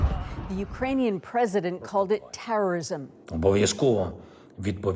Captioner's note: explosion